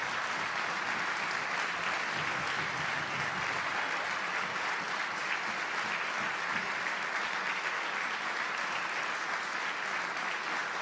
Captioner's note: applause